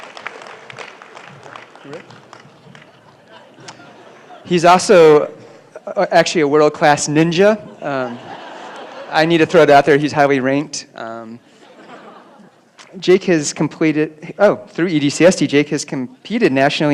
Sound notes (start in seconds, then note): 0.0 applause; 9.1 laughter